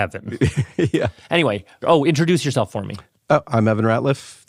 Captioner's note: laughs